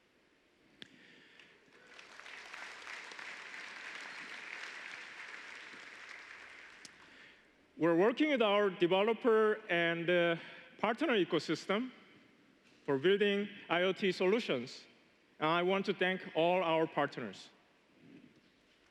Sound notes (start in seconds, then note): 6.6 applause